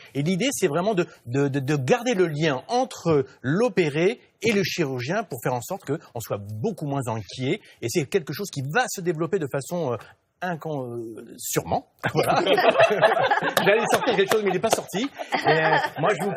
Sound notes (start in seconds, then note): 12.1 laughters